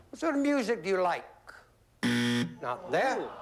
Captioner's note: buzzer